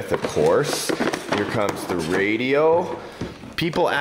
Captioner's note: plastic crinkles